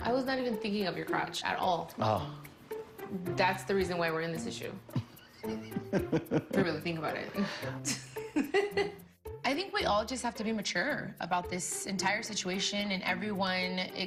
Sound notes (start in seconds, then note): 4.9 lorenzo laughs; 7.8 laughs